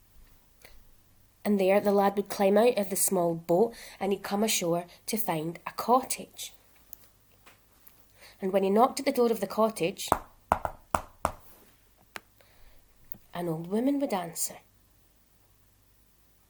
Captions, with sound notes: And there the lad would climb out of the small boat and he'd come ashore to find a cottage. And when he knocked at the door of the cottage... (JAUNTY KNOCKING SOUND) an old women would answer...